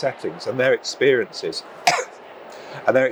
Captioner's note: coughs